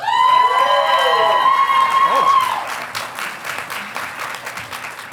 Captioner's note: audience applauding